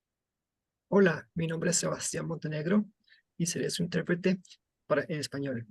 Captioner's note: speaking in Spanish